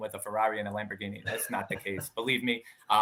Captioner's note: laughing